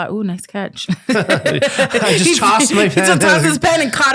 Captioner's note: both laughing